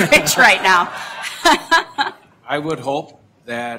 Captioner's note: laughter